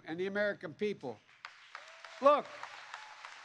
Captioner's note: applause